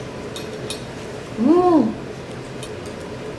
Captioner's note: yummm